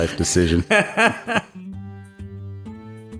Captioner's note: laughs